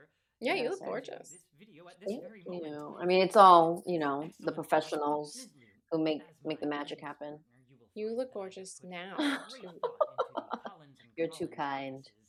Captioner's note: laughter